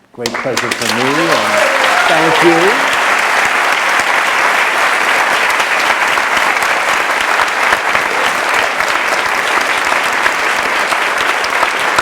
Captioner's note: applause